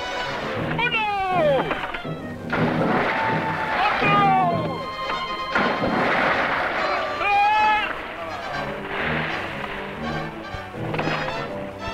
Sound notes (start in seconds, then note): 0.0 man speaking in Spanish; 2.2 water splashing; 3.5 man speaking in Spanish; 5.2 water splashing; 6.4 man speaking in Spanish